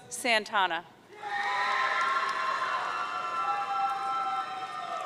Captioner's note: audience cheering